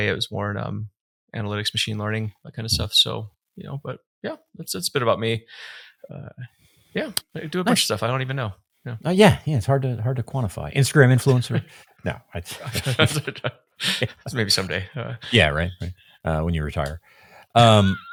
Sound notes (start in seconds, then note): 12.1 laughing; 12.4 laughs; 17.6 laughing